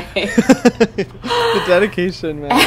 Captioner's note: both laughs